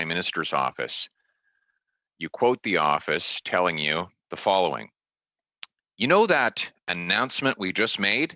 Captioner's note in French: voix de l'interprète